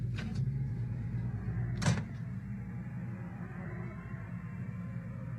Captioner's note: wind Blowing